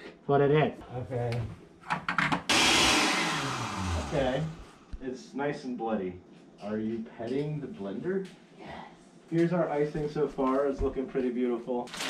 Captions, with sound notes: Put it in! OK. (Blender powering down) OK...it's nice and bloody. Are you...petting the blender? (whispering) Yes... Here's our icing so far, it's looking pretty beautiful.